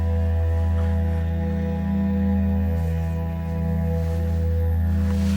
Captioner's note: sexual noises